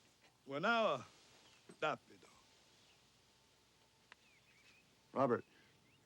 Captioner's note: Tukenbheska speaks Indigenous language